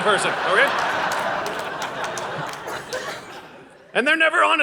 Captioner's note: audience laughing